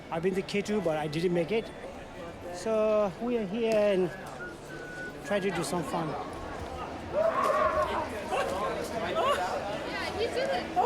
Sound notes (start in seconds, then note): 7.2 overlapping chattering